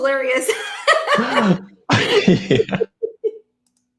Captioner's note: laughing